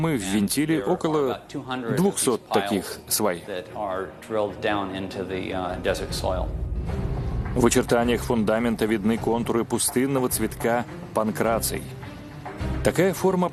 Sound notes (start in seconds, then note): 6.9 voiceover